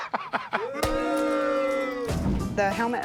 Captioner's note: Rick laughing; booing